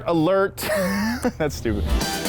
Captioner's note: laughing